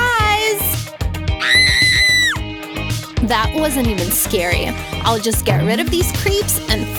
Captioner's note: scream